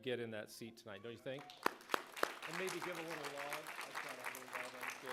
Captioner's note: applause